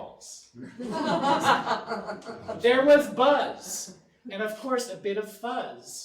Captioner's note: audience laughing